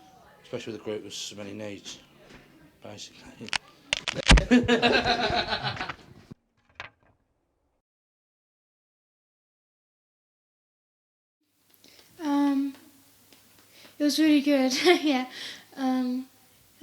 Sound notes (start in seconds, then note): 3.7 thud; 4.1 laughs